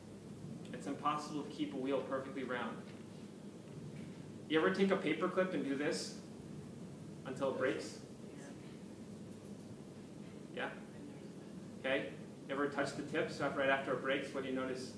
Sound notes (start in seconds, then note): 8.7 background comments